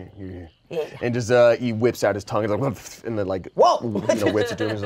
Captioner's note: grumbles